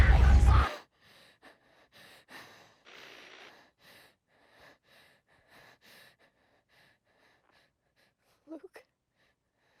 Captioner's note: screaming; violent rumble; heavy breathing